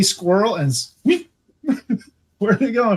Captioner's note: imitates squirrel